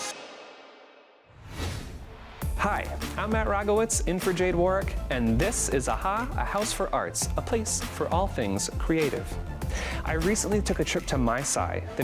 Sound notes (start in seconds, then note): 0.2 upbeat music fading; 1.6 whooshing